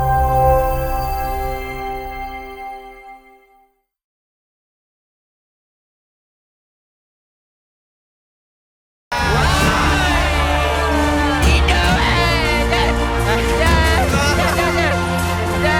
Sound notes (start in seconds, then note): 10.4 shouting